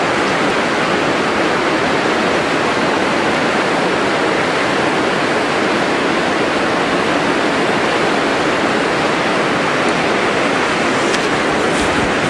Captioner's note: water splashing